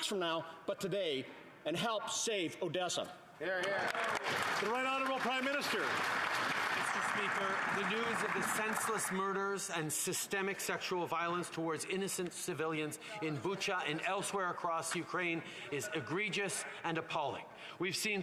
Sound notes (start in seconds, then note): 6.7 some Applause